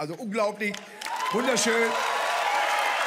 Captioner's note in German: Jubel